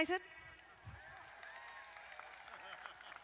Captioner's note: crowd applauding; crowd laughing